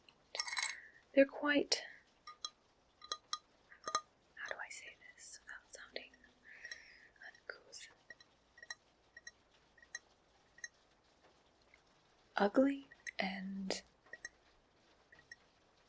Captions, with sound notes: They're quite... [ceramic tapping sounds] [whispers] How do I say this without sounding uncouth? [ceramic tapping sounds] Ugly and